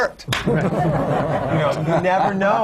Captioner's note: laughter